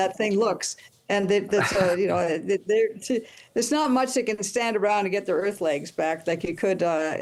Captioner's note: laughter